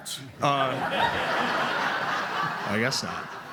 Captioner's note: laughter